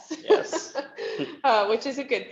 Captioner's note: laughs